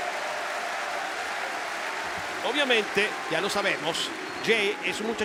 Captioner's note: applause